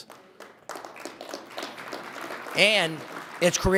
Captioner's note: audience applauding